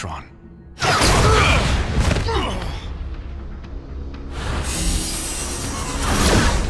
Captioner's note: grunting